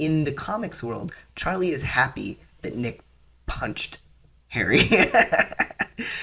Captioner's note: laughter